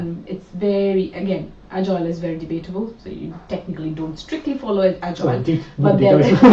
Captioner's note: laughs